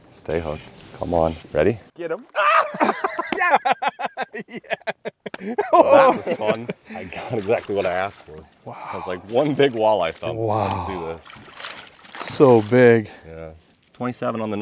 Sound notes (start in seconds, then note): 2.4 boisterous laughter; 5.0 zealous laughter